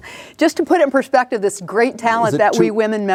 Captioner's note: laughing